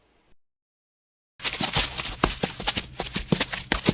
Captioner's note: running sounds